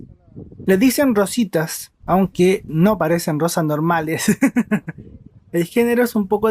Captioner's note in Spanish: risas